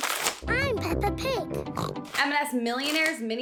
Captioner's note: oinking